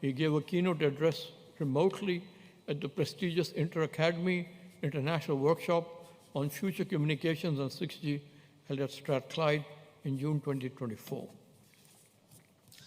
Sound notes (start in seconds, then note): none